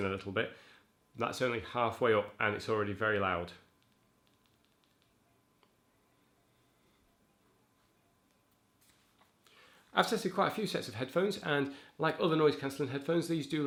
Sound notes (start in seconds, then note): 6.0 silence